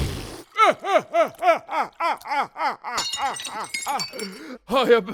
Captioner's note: laughter